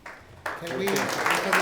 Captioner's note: audience applauds